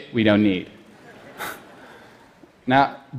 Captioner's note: laughter